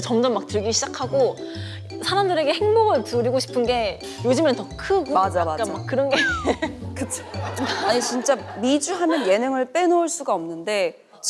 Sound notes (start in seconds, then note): 6.1 an empty laugh